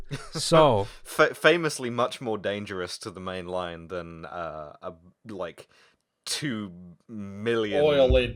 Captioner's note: laughter